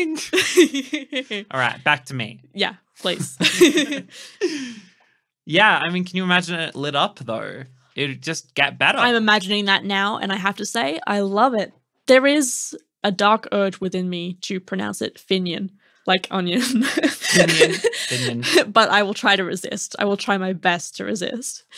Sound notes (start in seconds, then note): 0.2 laughing; 3.2 laughing; 16.7 laughing